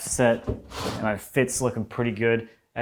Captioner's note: drawer opens thumping